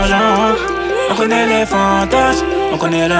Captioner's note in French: mmh, mmh